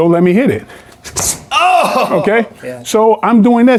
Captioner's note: Michael exhales